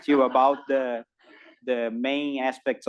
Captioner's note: laugh